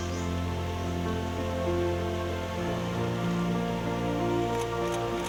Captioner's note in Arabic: أصوات الكاميرا